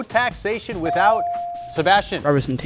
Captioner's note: buzzer chimes